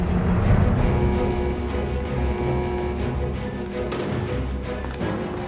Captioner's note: alarm blaring; alarm blaring / beeps